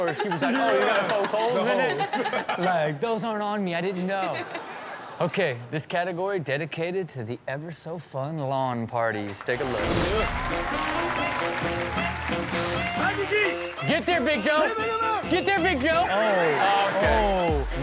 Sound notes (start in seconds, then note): 3.9 audience laughs; 10.0 upbeat music; 10.1 audience cheers